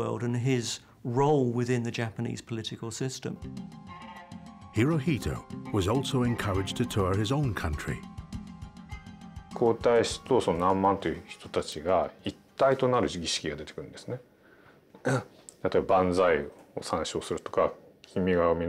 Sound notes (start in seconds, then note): 4.1 contemplative string music; 9.9 speaking in foreign language